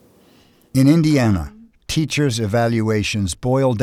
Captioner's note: voiceover